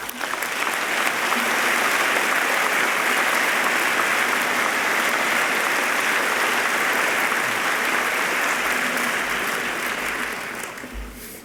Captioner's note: applause